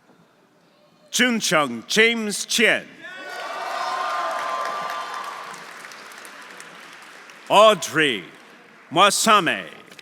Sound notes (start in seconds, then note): 3.1 audience cheering; 3.2 audience applauding